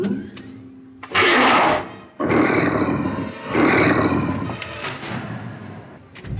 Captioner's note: dramatic music; Donald growls